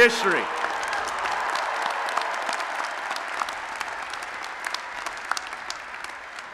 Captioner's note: applause and Cheering